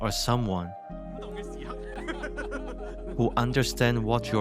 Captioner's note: happy Laugh